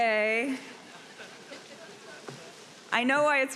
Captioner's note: audience laughing